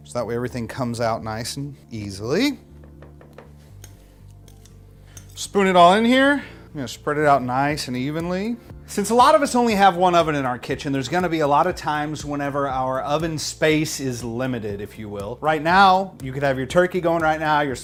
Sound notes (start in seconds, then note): 2.7 hand thudding; 3.4 spoon scraping